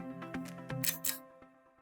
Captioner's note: click